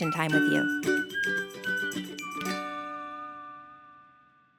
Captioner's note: cheerful whistling